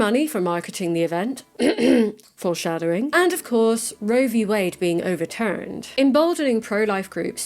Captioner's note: clears throat